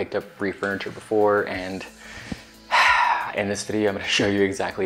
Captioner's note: sighs